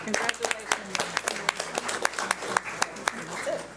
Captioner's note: audience applauds